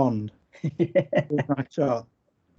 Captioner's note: laughs